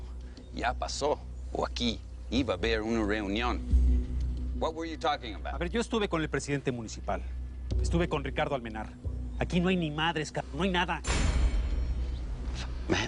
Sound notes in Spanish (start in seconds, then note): none